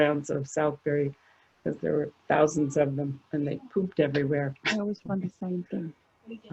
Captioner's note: background talking